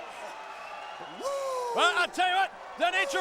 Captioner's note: crowd cheering